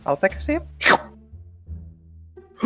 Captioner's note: schloorp